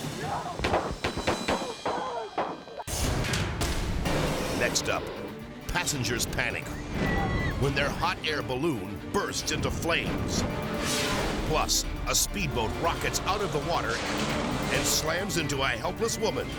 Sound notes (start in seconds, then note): 0.0 edgy dramatic music; 0.0 officers yelling; 0.6 shots firing; 2.7 dramatic music; 2.9 fire blazing; 6.7 passengers screaming; 6.9 fire exploding; 10.4 edgy dramatic music; 10.4 screen exploding; 12.7 boat crashing